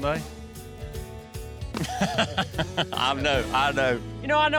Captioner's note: laughing